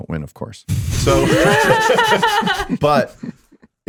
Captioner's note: all laughing